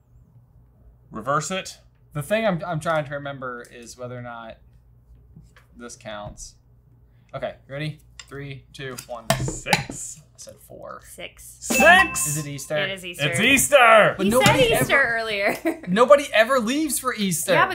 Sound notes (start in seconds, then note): 11.7 bell dings